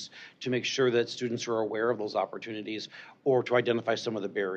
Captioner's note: none